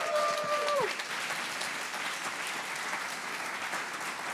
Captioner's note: audience applauds